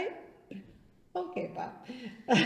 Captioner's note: laughs